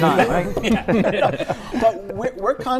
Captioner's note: laughter